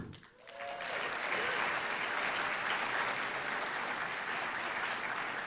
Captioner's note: applause